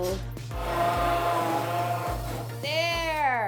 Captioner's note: drill humming